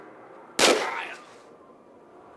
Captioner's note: bam